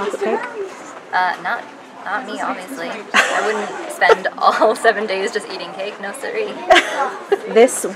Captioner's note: laugh